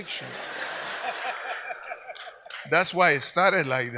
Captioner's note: audience laughs